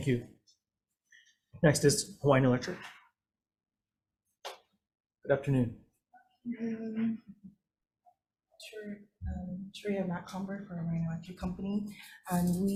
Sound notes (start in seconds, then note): none